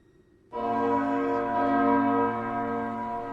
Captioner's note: somber bell tolls